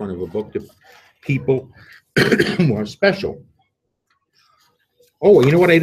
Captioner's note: coughs